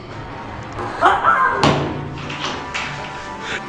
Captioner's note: door bashes; screams